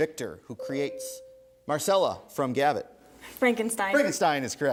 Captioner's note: ding